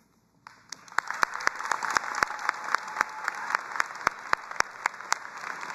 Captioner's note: audience applauding and cheering